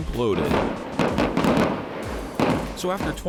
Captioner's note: explosions popping